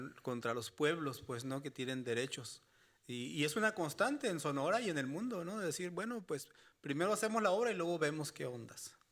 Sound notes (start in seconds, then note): 1.9 speaking Spanish continues